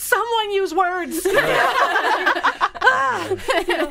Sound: all laughing

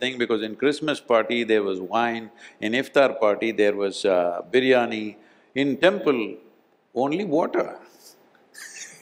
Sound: laughs

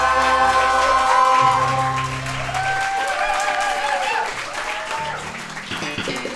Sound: audience cheering

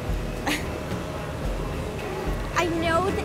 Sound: chuckles

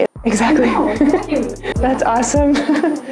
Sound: laughing

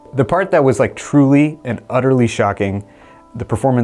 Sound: none

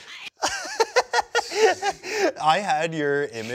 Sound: laughs

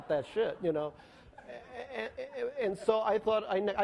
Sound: laughing

